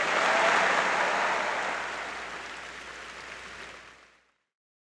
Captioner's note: audience applauding